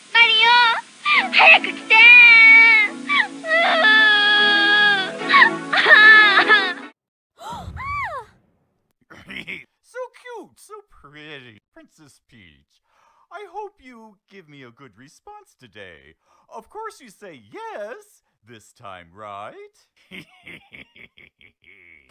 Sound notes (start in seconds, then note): 3.5 loud Sobbing; 7.4 screams; 20.0 laughs Evilly